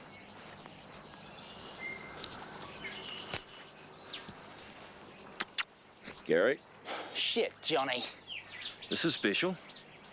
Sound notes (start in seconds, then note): 5.3 smacks lips; 6.5 Gary sighs